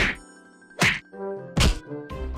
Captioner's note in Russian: удар x1; удар x2; удар x3